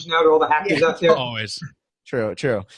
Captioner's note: laughing